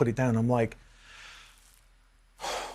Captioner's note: sighs